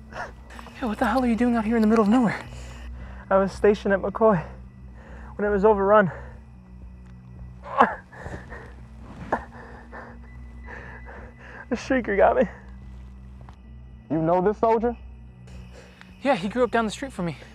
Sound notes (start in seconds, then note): 7.6 grunts in pain